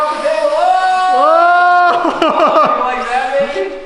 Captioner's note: laugh